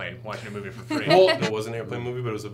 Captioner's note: laughs